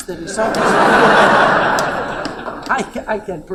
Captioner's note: laughter